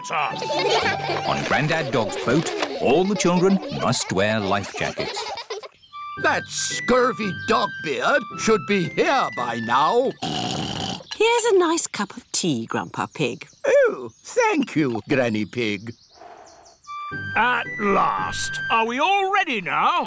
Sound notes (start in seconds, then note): 0.3 all giggle; 10.2 oinks